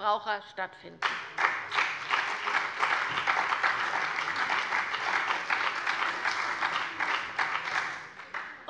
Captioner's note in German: Beifall bei der CDU, der SPD und den BÜNDNIS 90/DIE GRÜNEN